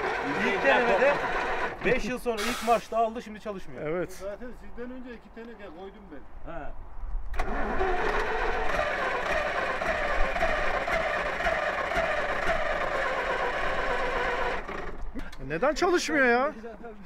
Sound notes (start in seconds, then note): 0.0 laughing; 7.3 tryings to start the vehicle